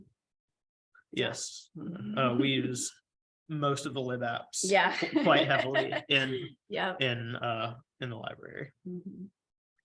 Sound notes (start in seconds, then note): 5.0 laughter